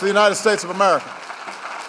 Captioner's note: applause